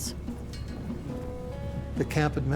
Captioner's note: gusts of wind blowing